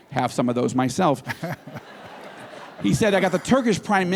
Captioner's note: laughter